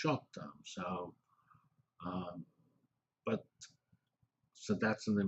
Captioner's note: pause